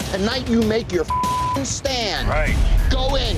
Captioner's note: beep